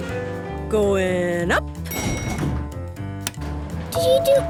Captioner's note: elevator pings